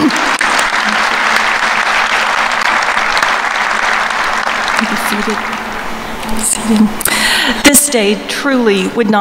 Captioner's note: applause